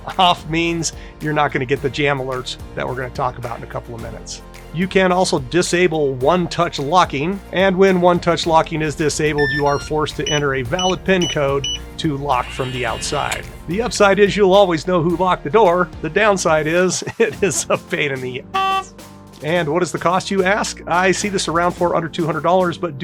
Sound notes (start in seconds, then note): 9.2 beeping; 12.4 motor whirring; 17.1 laughing; 18.5 beep